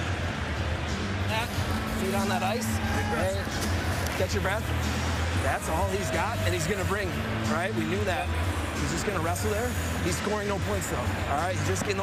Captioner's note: cheers and applause